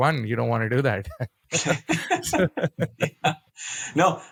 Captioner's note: both laughing